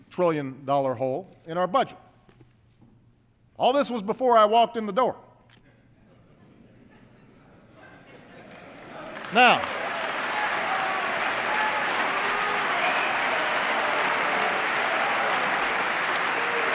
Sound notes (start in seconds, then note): 8.0 laughter and applause